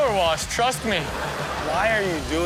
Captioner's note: audience laughs